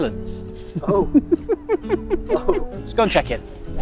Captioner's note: laughs